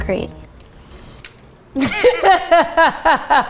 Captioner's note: laughs